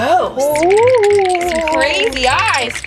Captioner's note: teeth chattering